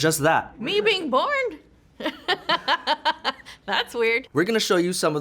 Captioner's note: laughs